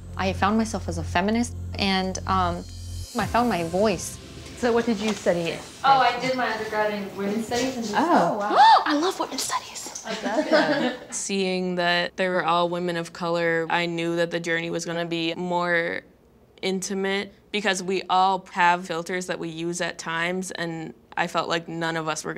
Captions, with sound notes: I found myself as a feminist and I found my voice. - So what did you study in? - Oh, I did my undergrad in women's studies-- - (gasps) I love women's studies! (laughing) - Seeing that they were all women of color I knew that the journey was gonna be more intimate because we all have filters that we use at times, and I felt like none of us were gonna